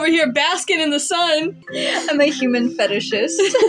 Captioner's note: inhale; giggle; laugh